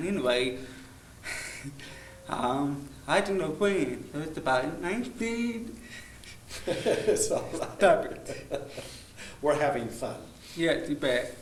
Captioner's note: laughing